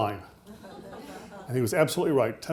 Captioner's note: audience laughing